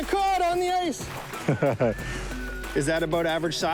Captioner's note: laughs